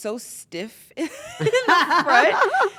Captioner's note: laugh